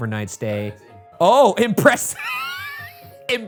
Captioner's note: laughs